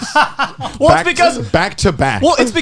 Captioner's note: laughing